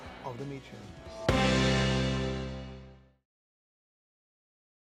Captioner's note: dramatic whoosh